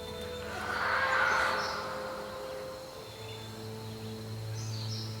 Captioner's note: creature screeches